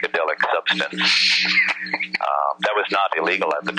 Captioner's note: laughing